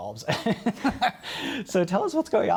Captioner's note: laughter